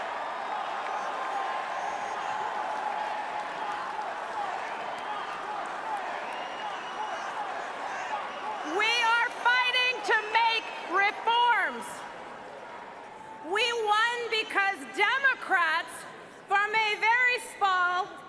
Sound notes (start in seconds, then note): 3.3 crowd chanting